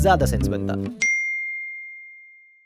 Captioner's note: bell rings